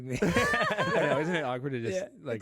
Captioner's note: all laughing